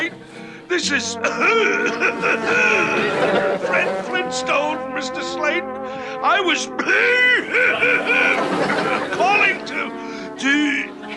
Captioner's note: coughing and hacking